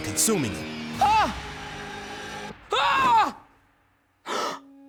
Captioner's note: screaming